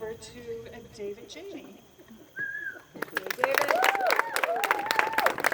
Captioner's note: applause and cheers